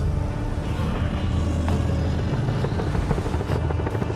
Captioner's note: Godzilla Roars